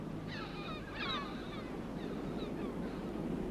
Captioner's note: sounds of sea and seagulls